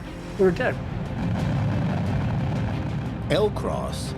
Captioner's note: engines roaring